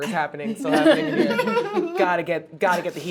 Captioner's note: laughing